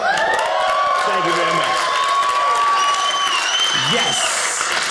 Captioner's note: audience cheering